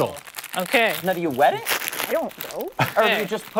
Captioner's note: laughter